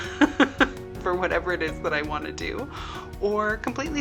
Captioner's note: laughing